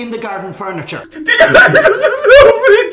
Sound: loud sobbing

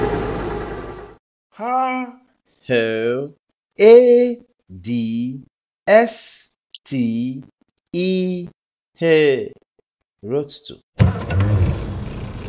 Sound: roadster Sound

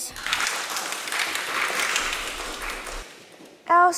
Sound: crowd applauds

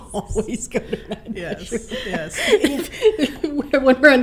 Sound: laughing

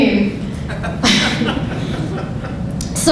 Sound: audience laughing

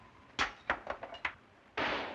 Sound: objects breaking; gunshot

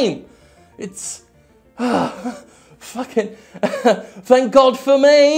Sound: sighs; laughs

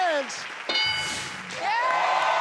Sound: board dings; crowd cheers

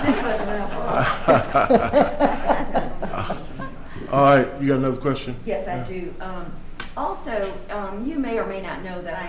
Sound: laughter

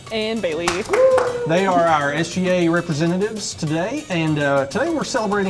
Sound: cheering in background

